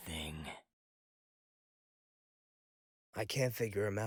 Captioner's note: quietly